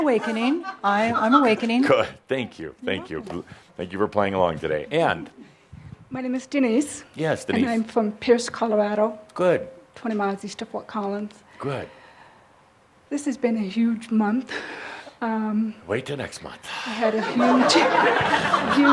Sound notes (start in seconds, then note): 16.7 some chuckles